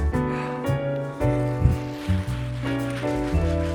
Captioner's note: sighs